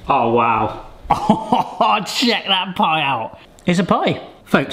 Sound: chuckles proudly

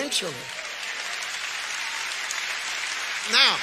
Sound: audience applauds

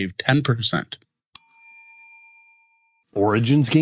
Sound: bell dings

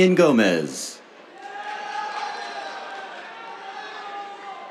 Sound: cheers, applause

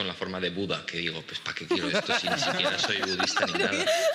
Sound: they laugh

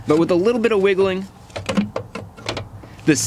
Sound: starter clattering

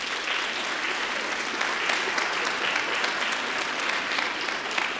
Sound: applause

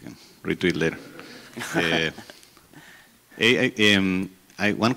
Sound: chuckles

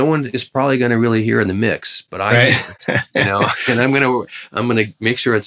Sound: laughter

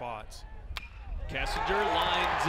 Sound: crack of bat

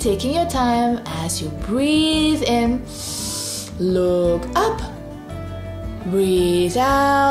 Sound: breathes in deeply

